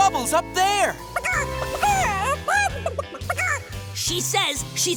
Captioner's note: clucking